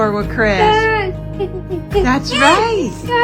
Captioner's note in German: Person jubelt